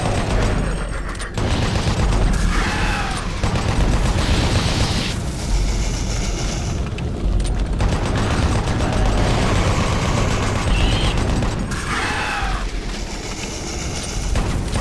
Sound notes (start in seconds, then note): 0.0 gun firing